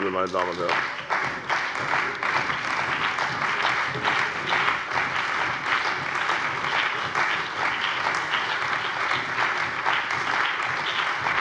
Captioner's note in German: Beifall bei der CDU und dem BÜNDNIS 90/DIE GRÜNEN